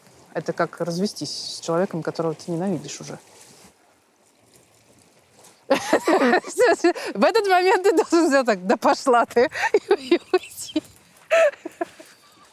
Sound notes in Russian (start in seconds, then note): 5.7 смеется; 9.7 смеясь; 11.2 смеется